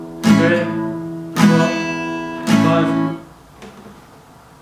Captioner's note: alarm Sounds